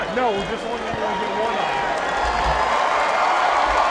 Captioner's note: speaks faintly; crowd cheering